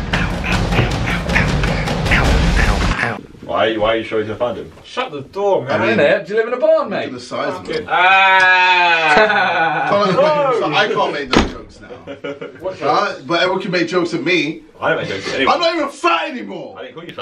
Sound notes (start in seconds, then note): 0.4 whispering; 7.9 sheep noise